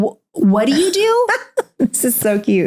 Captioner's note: laughs